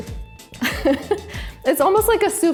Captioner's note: chuckles